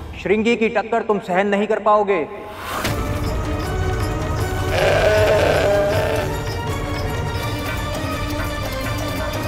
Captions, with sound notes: You won't be able to bear Shringi's hit. [dramatic music playing] [bull roaring]